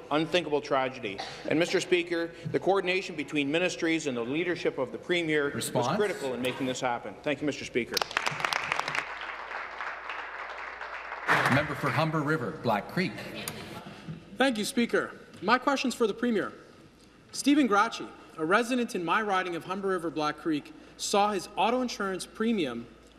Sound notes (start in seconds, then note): 11.6 applause